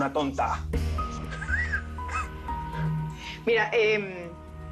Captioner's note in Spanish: Risas